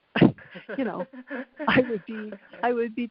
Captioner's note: both laughing